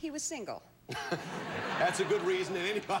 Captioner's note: audience laughing